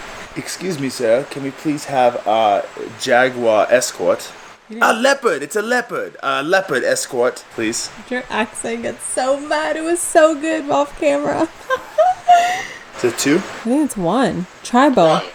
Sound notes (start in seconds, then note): 9.0 laughing amusingly; 15.2 automated Voice